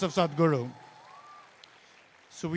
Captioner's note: cheering/Applause